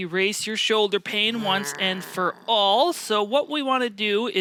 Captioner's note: grunting